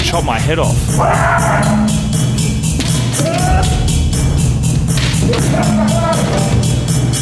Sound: screams; laughs

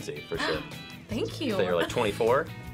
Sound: gasps

